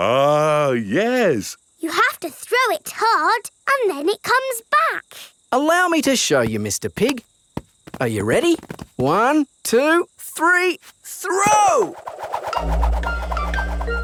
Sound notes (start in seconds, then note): none